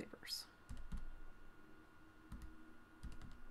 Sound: tapping calculator keys

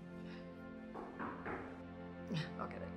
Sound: knocking

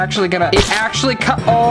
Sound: squirting

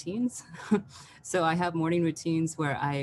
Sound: chuckles

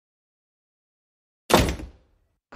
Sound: door slams

